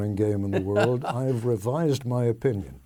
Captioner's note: laughing